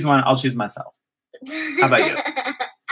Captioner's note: laugh